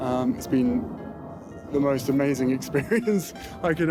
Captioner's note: laughs